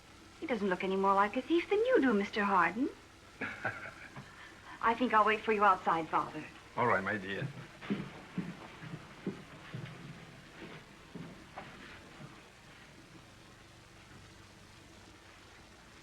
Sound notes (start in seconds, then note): 3.4 laughs